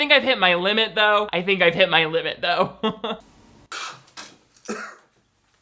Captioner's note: laughs